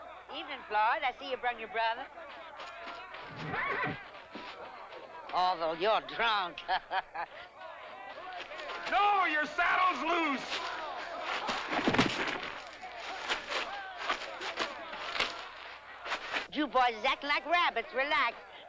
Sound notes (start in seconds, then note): 3.3 horse whinnies; 6.4 chuckles; 11.6 thump